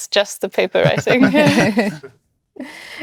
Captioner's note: laughter